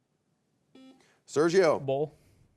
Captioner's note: buzzer beeps